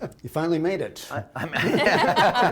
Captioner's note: laughter